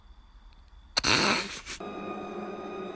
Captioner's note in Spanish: Risa de terror